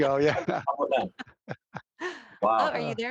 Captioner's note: laughing